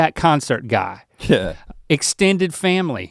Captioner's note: Rhett chuckles